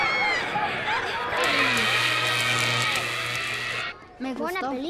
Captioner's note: crackling